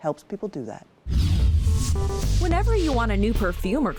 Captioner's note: screen whooshing; bright music